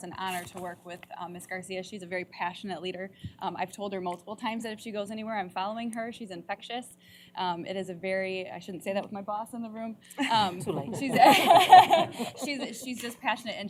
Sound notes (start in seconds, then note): 10.2 laughter